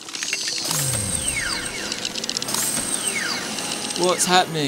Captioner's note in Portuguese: Zumbido, enrolando para baixo